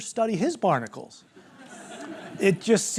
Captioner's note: laughter